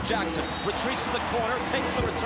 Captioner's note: whistle blows